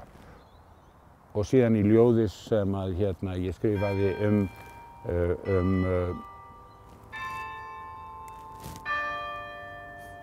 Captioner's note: bells tolling